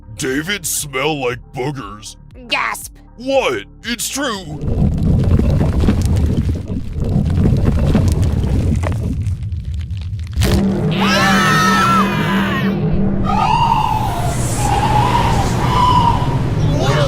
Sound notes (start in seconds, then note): 4.6 rumbling; 10.9 scream